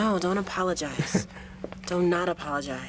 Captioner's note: laughs